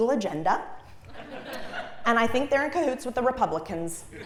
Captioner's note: laugh